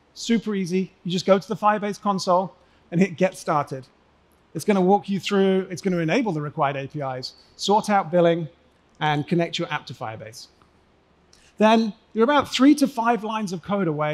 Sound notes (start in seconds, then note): none